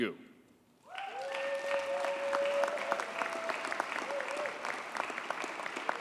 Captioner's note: audience cheers and applauds